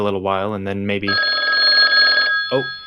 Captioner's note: phone rings